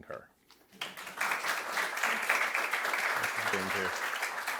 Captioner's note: audience applauding